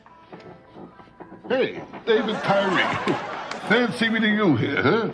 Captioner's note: audience laughs